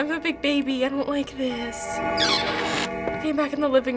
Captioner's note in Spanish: Tañido del reloj; chirridos de puertas